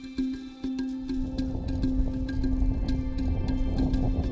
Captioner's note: rhythmic drumming; wind howling